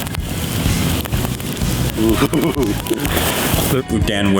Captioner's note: fire crackling; laughing